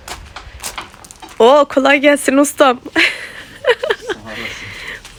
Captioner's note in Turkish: kahkaha